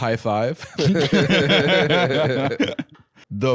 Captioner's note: all laughing